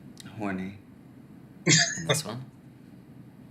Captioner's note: chuckling